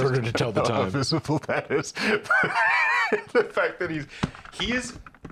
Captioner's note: laughing